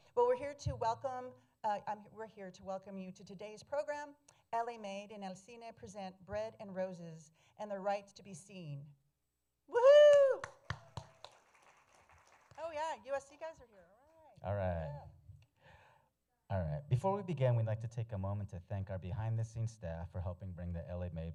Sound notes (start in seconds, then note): 10.1 applause